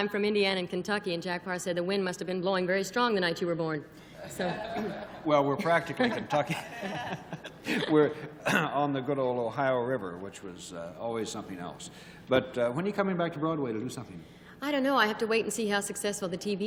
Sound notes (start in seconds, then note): 8.4 chuckling